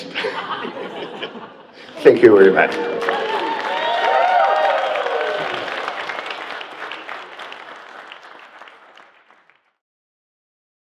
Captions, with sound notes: (people laugh) Thank you very much. (people cheer)